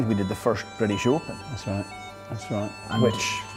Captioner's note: with British accent